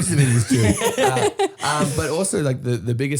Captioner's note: laughing